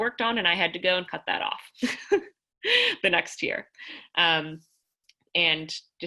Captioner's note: laughter